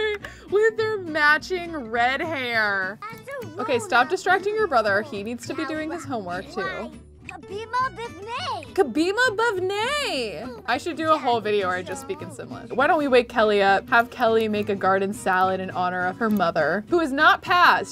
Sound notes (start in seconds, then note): 8.9 speaking foreign language